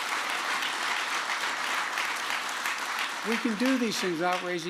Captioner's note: applause